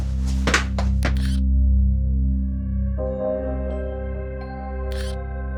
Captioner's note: footsteps tapping; graphics buzzing; pensive music; graphics buzzing